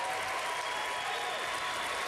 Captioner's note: applause